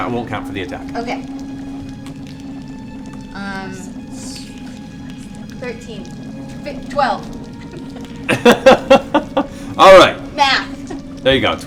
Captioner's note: laughs